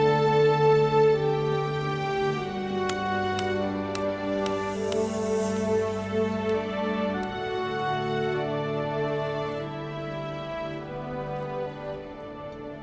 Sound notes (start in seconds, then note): 2.8 tapping